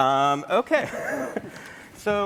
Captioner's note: laughter